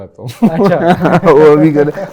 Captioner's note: giggles